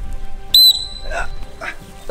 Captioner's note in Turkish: Düdük